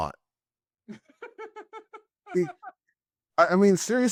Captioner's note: laughing